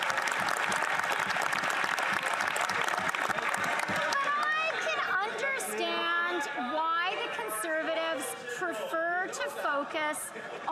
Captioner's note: some Applause